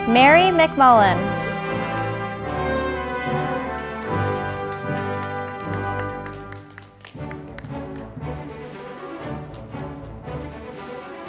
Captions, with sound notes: Mary McMullen, (audience applauding)